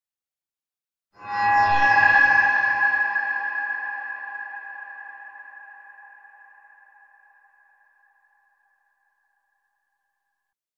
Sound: scary sound

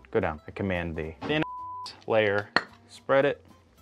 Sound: beeps

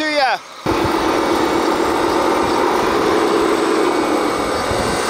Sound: machine engine roaring

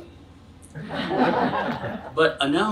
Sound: audience laughs

